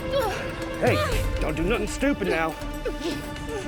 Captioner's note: groans